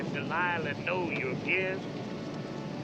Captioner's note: radio sermon continues